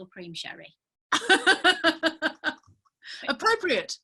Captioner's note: laughing